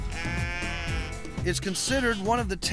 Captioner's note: sheep bleating